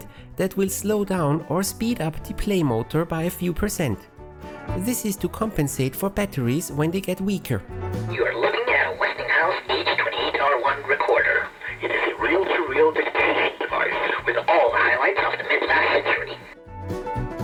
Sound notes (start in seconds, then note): 8.3 tape, speed changing